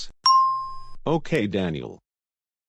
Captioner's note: ding